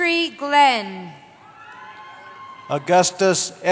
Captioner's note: cheering